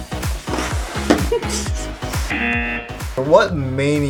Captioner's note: laughs; buzzer rings